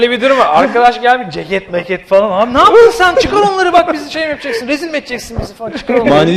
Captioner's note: laughter; laughing